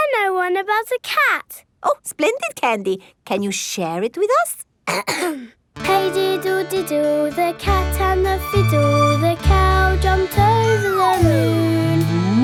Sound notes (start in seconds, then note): 4.8 clears throat